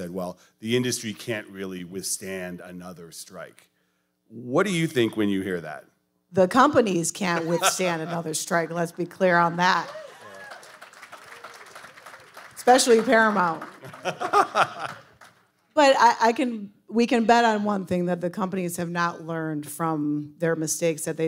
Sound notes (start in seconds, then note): 9.5 audience applauding; 13.8 laughing